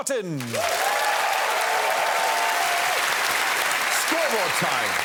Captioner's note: cheering and applause